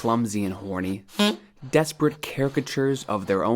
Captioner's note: horn beep